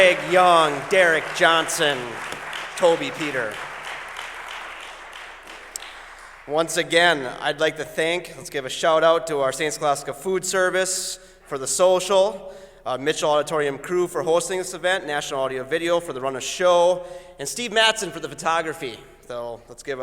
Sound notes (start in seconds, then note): 0.0 applause